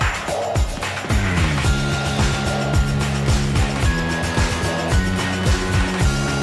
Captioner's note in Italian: Applausi